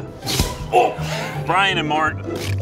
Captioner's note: popping sound